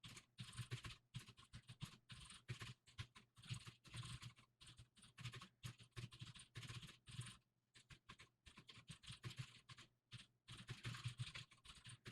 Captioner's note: typing sounds